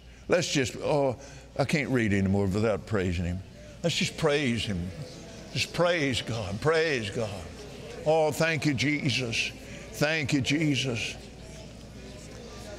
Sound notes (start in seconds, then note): 4.5 audience praying